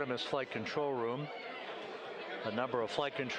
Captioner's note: laughter